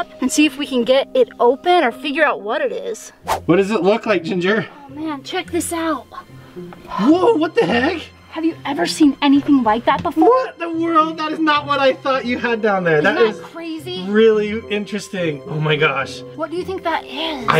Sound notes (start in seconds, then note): 3.2 whooshing